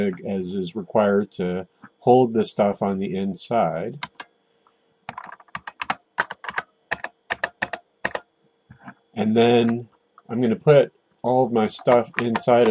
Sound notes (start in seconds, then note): 3.3 typing